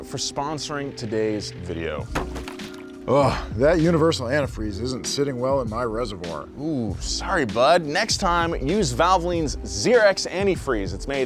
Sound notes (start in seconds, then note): 2.1 splash sound